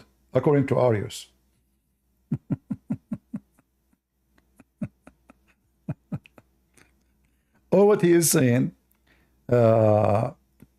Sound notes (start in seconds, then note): 2.2 Ketawa